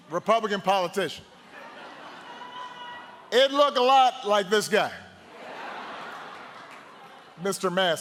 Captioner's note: laughter